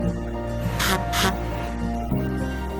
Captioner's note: imitates truck honking